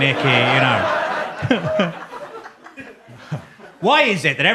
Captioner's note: audience laughs